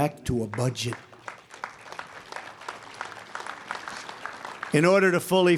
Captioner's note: applause